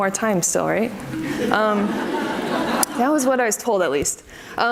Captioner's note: audience laughs